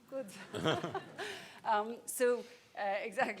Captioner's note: people laughing